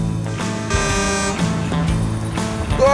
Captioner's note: car horn